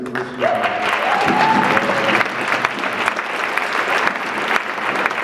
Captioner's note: audience clapping